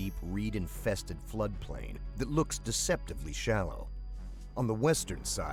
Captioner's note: voiceover